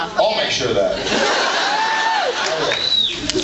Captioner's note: laughs and cheers